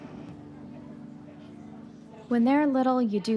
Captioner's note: coffee shop chatter